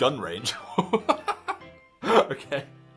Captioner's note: laughing